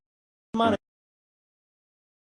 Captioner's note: audio fully cuts out